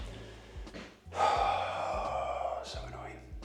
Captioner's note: sighs